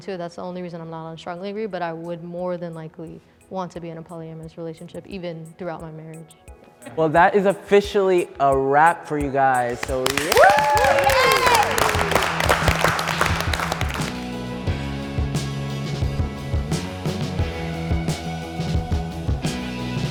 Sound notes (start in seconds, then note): 9.7 participants cheering; 11.5 participants applauding; 15.1 instrumental music